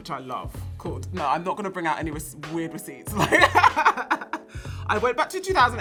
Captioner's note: laughs